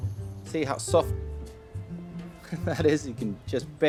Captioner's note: laughs